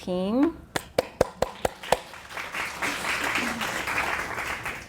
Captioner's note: audience applauding